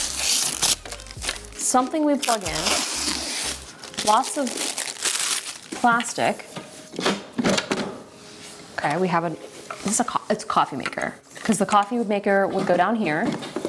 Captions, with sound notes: something we plug in. (wrapper crinkling) Lots of plastic. It's a coffee maker, 'cause the coffee maker would go down here,